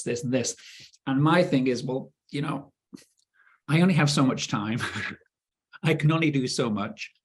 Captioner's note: chuckling